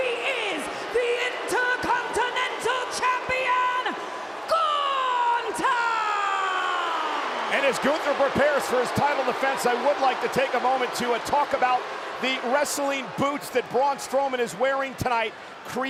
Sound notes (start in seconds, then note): 7.5 audience cheering